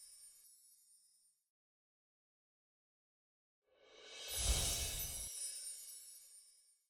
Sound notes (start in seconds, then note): 4.9 chiming